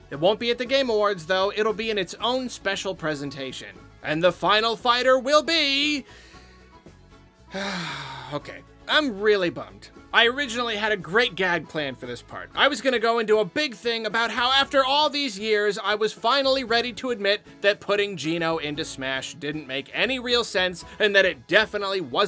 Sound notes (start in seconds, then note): 7.5 sigh